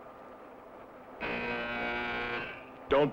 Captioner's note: alarm blaring